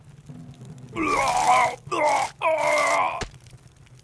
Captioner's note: epic puking noises